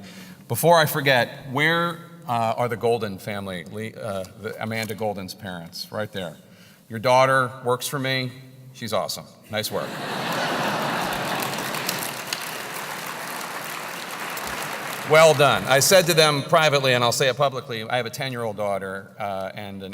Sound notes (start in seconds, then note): 9.8 laugh; 9.9 applause